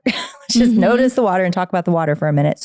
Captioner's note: laughing